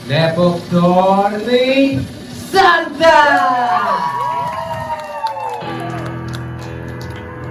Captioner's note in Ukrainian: оплески